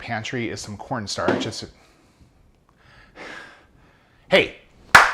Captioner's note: banging noise; claps